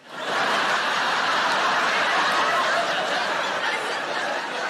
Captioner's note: audience laughing